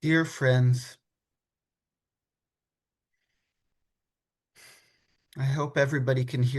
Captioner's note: exhales